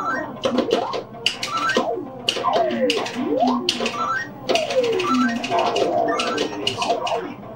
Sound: buttons clicking; game beeping

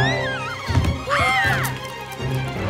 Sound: both yelp

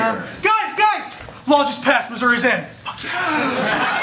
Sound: gasps

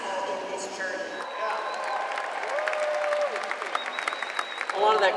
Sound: crowd cheers

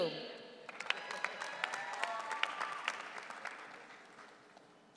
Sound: audience cheering

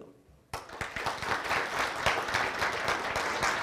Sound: applause

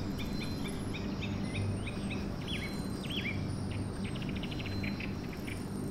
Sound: birdsong

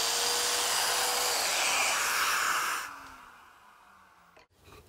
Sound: machine whirring; wood creaking

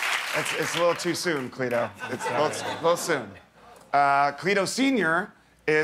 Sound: cheers and applause

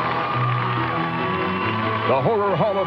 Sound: audience cheering

